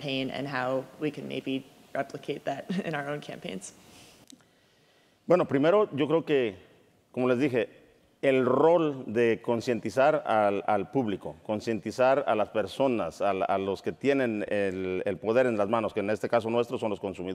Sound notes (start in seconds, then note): 5.3 speaking in Spanish